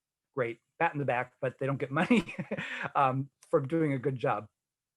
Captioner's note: laughing